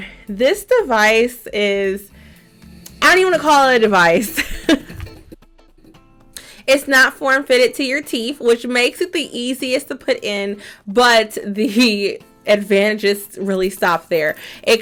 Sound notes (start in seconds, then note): 3.2 laughs